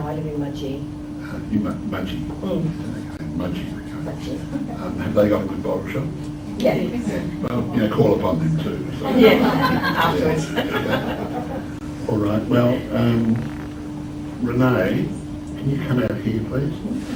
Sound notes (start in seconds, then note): 10.7 laughter